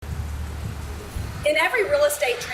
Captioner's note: cars driving past create background noise